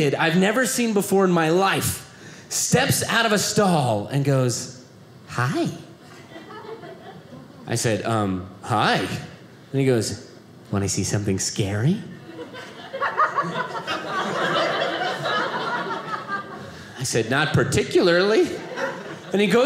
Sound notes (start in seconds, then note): 12.2 audience laughing